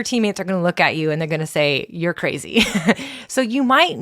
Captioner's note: laughs